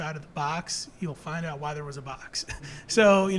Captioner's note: chuckles